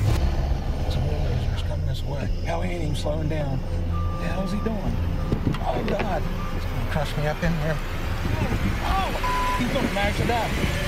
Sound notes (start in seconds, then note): 3.8 signal rings